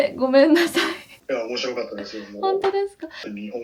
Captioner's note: laughs